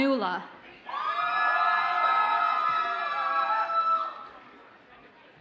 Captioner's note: audience cheers and applauds